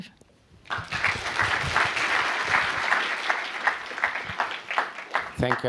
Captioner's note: applause